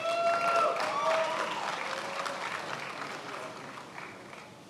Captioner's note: attendees applauding